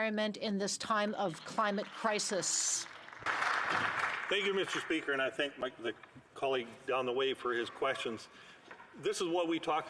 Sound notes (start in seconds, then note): 6.0 applause